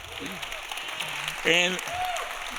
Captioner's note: audience applauding